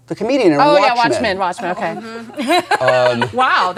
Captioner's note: laughs